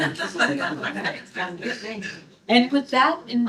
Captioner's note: laughter